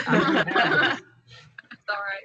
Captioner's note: laughter